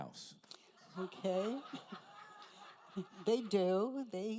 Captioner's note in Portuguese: risos da plateia